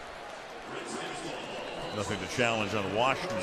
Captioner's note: pa announcement